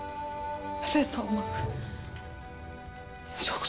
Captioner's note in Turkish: İç çekiyor